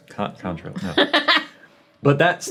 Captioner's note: laughing